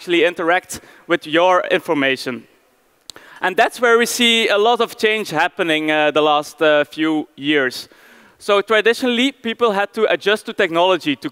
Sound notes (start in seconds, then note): none